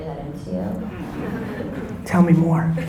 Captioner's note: audience laughter